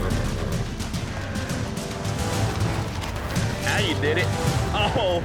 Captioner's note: horse neighs